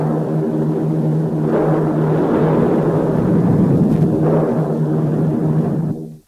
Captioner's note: explosions booming